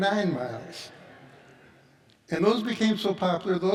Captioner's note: audience laughs